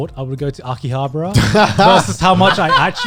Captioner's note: guys laughing